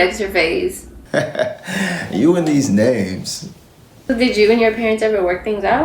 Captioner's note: laughs